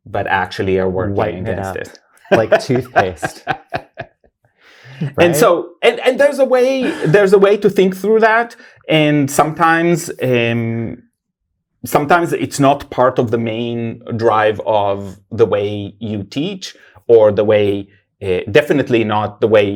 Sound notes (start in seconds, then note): 2.2 guy laughs